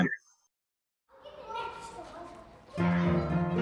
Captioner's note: kids murmuring; soft piano music